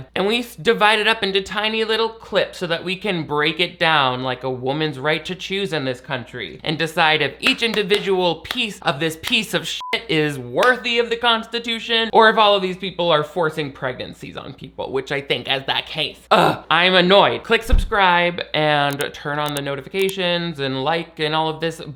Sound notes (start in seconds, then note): 9.8 beep